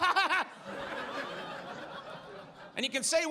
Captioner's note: audience laughs